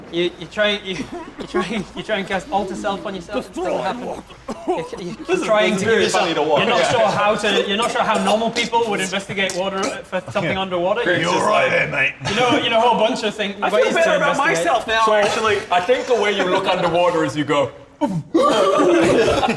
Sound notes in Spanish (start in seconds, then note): 4.4 Tos y chisporroteo